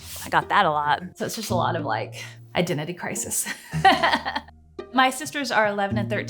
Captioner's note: laughing